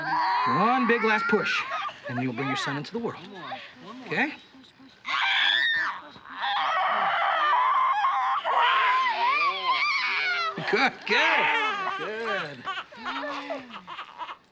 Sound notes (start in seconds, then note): 4.7 screams; 8.2 baby crying